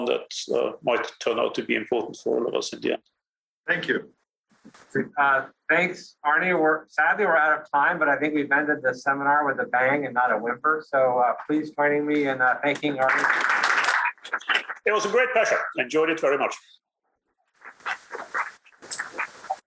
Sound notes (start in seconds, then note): 14.7 applause